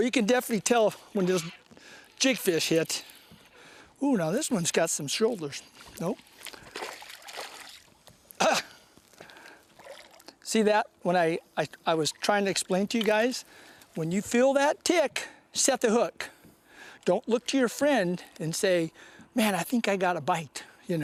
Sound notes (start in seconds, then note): 5.7 splash; 8.0 laughter